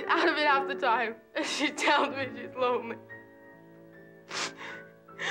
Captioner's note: crying